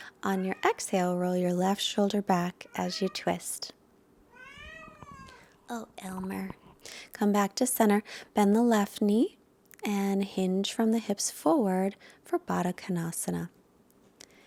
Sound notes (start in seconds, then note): 4.3 Elmer meows